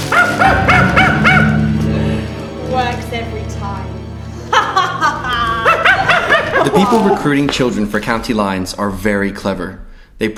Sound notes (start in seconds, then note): 0.1 monkey cackling; 4.4 evil laughter